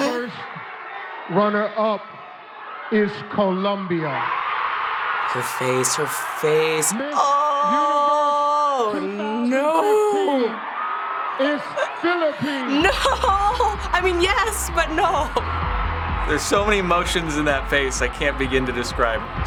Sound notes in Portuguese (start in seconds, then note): 4.1 Público vai selvagem